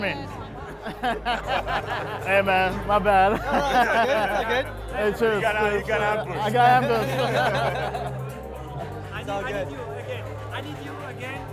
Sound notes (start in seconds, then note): 7.3 laugh